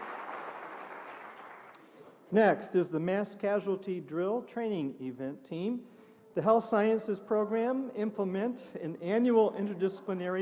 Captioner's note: applause